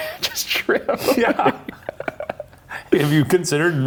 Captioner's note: both chuckling